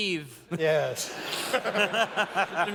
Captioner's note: laughter